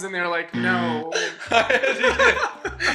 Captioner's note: buzzer sounds